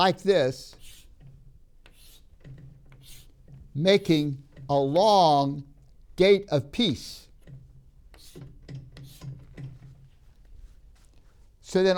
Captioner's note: marker tapping